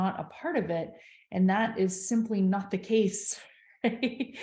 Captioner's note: chuckles